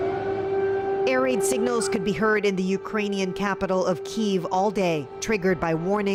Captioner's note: sirens